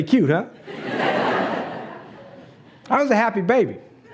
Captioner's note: laughs